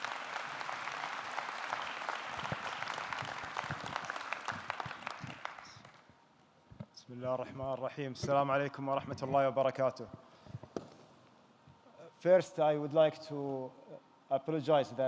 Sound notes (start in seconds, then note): 0.0 audience clapping; 7.5 speaking in foreign language